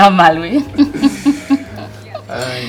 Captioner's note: chuckling